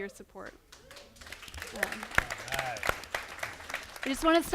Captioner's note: applause